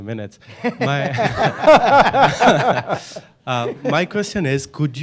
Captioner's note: panel laughing